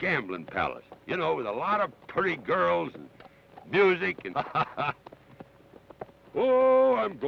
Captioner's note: laughs